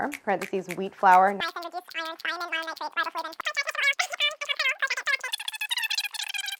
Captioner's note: high pitched voice squeaks